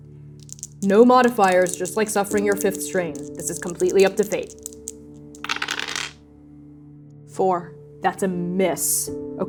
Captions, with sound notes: [shaking dice] [shaking dice] - No modifiers. [shaking dice] - Just like suffering your fifth strain, [shaking dice] - this is completely up to Fate. [dice rolling] Four. That's a miss.